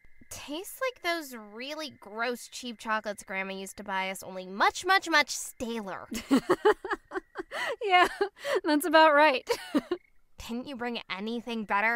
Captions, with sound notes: ASTRID It tastes like those really gross, cheap chocolates grandma used to buy us. Only much, much, much staler. KRISTIE (Laughs) Yeah, that’s about right. ASTRID Didn’t you bring anything better?